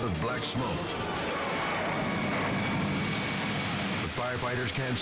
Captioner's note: dramatic music; fire crackling